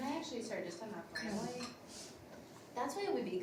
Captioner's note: glass clings